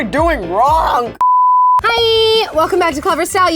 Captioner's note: beep